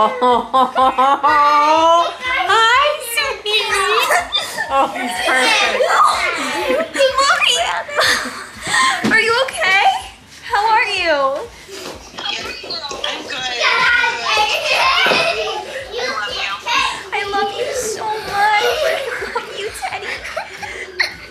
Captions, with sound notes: (laughing) - Hi, sweetie. Oh, he's perfect. - Are you okay? How are you? - I'm good. (children shouting excitedly) I love you. - I love you so much. I love you, Teddy.